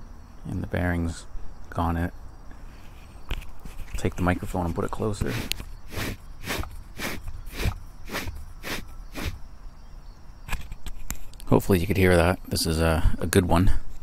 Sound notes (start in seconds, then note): 5.1 sound of bad bearing